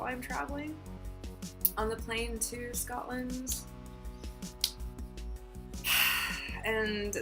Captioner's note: sighs